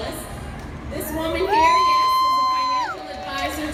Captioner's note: clapping and cheering